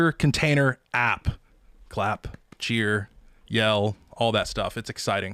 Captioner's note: claps